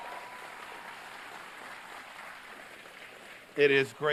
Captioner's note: applause